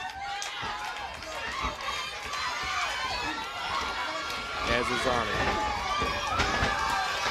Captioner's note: crowd cheering